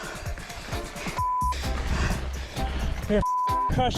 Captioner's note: beep